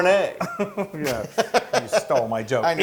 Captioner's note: laugh